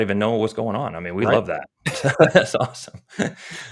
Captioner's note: chuckles